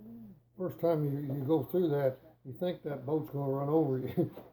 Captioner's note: chuckling